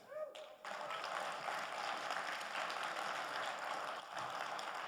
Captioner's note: audience applauding